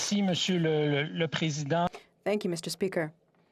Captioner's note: speaking French